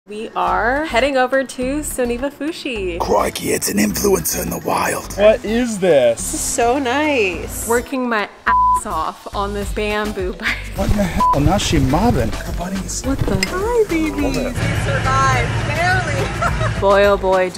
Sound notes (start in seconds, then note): 8.7 beep; 16.1 laughing